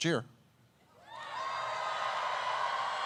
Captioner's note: cheers